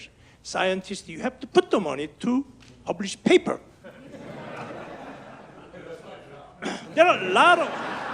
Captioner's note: audience laughs